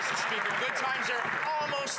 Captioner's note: some Applause